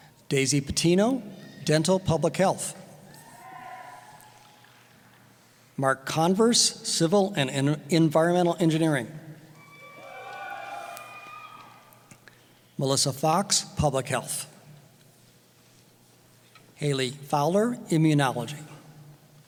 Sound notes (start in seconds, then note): 3.1 cheering; 9.5 cheering